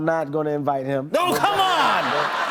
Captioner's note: laughter